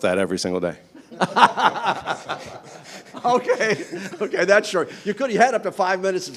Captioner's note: everyone laughing